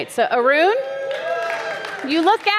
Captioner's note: audience cheering